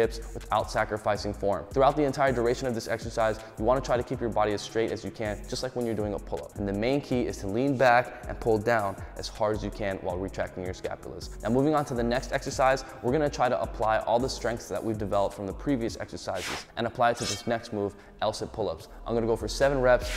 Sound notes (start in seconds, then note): 16.3 air whooshing; 17.1 blades clinking; 20.0 air whooshing